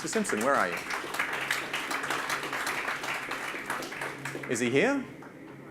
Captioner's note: audience claps